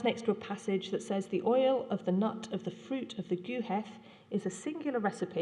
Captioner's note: non-english